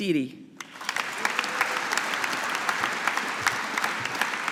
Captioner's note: audience applauding